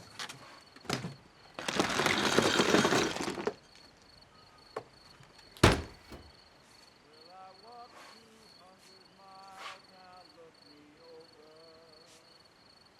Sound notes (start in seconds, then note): 1.5 ice clunking; 7.6 singing distantly